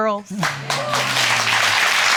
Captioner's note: audience applauding